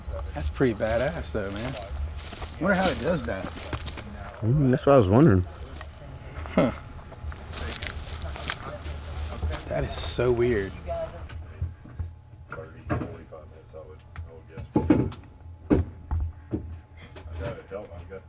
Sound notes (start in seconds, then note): 12.4 chatter from Jeff and Dave